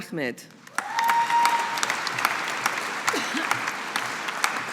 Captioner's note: audience applauding